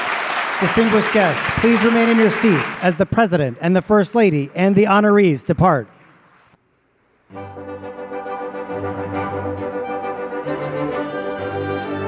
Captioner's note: applause